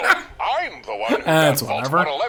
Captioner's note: laughing